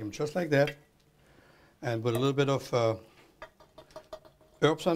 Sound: ticking ladle

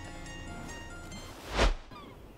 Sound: transitional whoosh

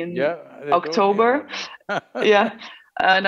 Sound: laughs

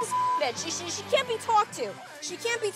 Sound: beep

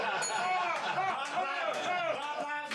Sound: scattered laughs; bell rings

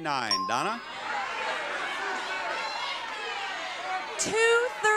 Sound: audience jeering

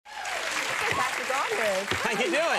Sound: audience applauds

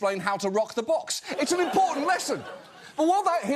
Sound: audience laughs

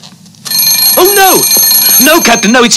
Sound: bell ringing

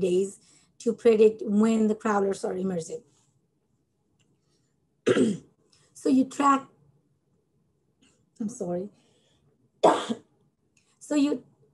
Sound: coughs

